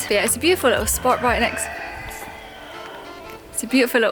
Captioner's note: cockerel crowing